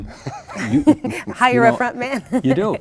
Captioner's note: laughing